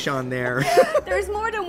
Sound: laughing

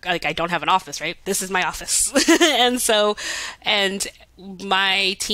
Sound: chuckles

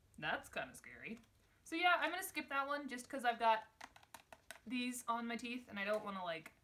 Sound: tapping

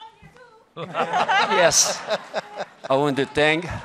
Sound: laughter

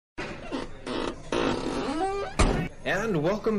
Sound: metal creaking

